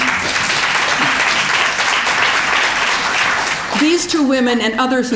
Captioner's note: applause